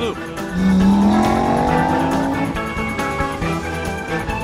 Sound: engine roaring

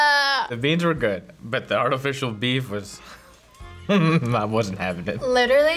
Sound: chuckles

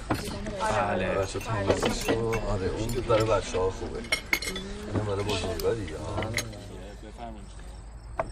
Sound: roar of chatter; thud

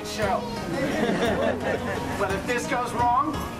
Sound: audience Laughs

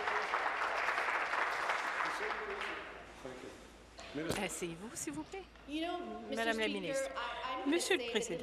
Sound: applause

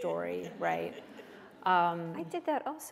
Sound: laughter

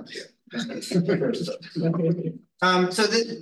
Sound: group laughing

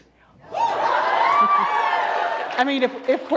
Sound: applause

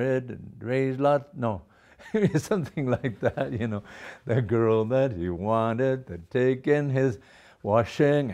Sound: laughter

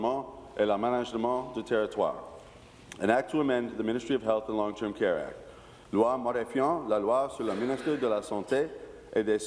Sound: speaking in french

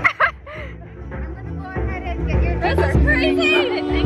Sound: laughing

